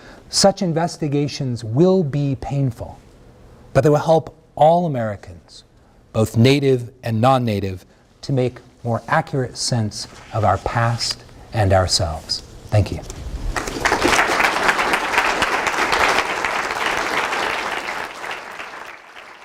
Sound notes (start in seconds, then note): 13.4 applause